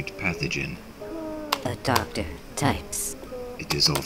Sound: the Buzzing; click-clack

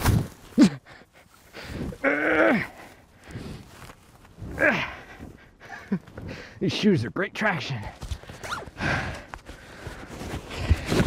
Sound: laughter

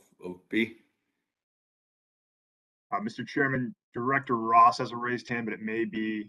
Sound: A pause

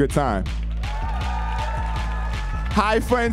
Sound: audience cheering

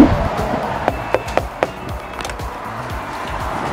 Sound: knocks

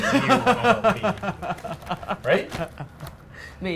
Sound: laughs

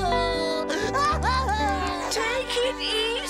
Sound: sobbing

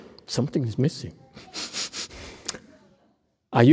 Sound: sniffs

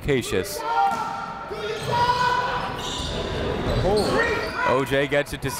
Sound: coaches yelling; crowd talking

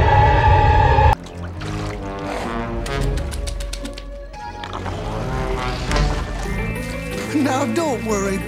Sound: mush Sounds

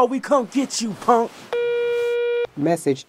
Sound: phone tone

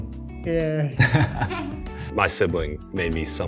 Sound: laughs

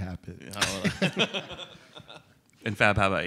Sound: laughter

